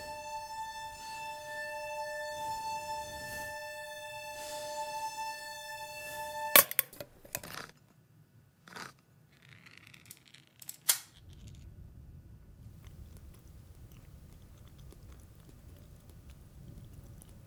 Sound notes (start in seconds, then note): 6.1 can clacks; 11.3 wind whistling